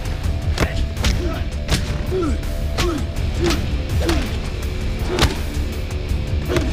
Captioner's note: fists thudding; grunting